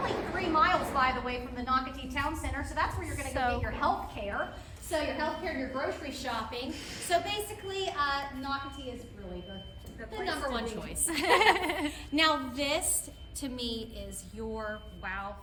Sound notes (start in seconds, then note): 11.0 women laughing